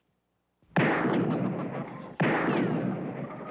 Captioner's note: gunshots; chickens clucking